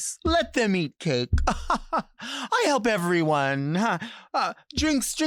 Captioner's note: laughing